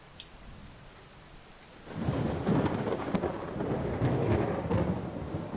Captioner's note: thunder crackles